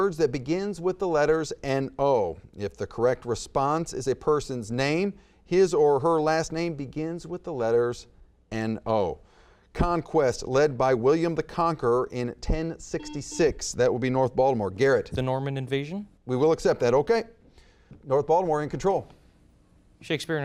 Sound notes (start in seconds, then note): 13.0 buzzer beeps